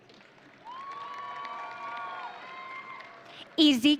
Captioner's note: audience cheering